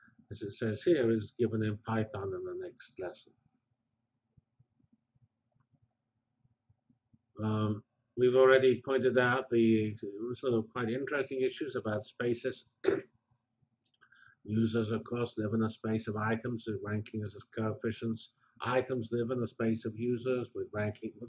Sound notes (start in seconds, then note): 3.5 pause